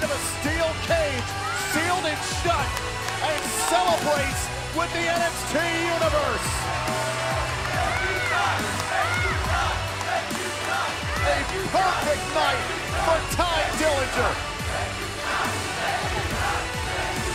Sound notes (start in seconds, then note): 9.2 fans chanting